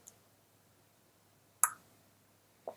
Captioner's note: clicks tongue